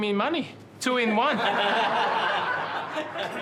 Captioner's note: laughter